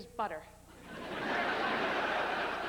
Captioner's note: laughter